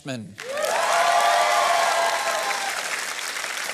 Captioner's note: cheering and applause